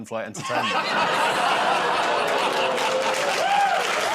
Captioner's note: audience ooh's; laughter and applause